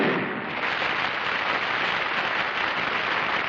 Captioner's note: gunshot; applause